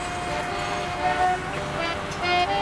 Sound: vehicle honking

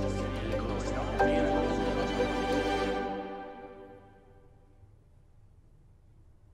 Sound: people chattering; inspiring music

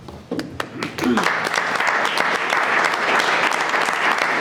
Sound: people applauding

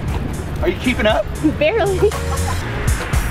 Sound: laughs; upbeat music

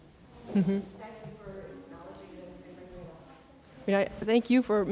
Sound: speaks quietly without mic

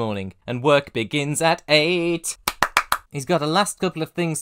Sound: clap clap clap clap

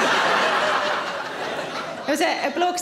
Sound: audience laughs

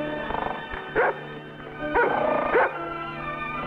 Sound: dog barks

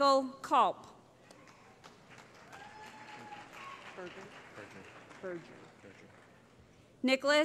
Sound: cheering

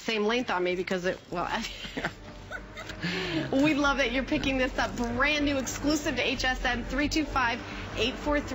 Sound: laughter

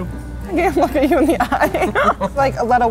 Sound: laughs

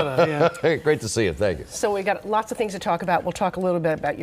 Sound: laughter

